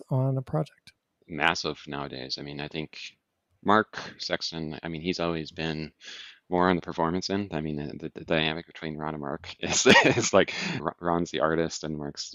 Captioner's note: laughs